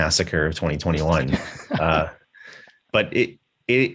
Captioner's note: chuckles